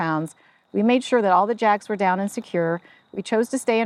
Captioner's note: none